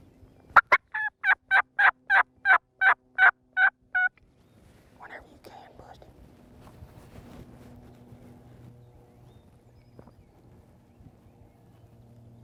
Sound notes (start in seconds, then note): 0.6 gobbling Sound